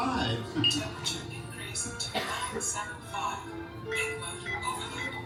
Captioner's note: beeps